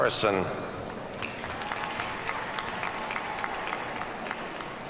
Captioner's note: audience applauds